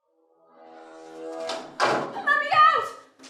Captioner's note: door slams